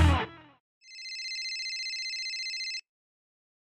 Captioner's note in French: Sonnerie de téléphone